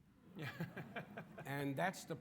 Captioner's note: audience laughing